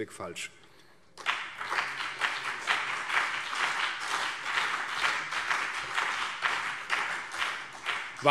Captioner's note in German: Beifall CDU und BÜNDNIS 90/DIE GRÜNEN